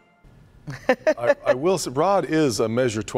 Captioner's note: laughter